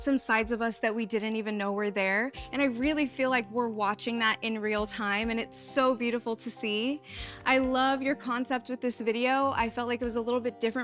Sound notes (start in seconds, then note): none